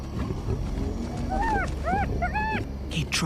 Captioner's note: whining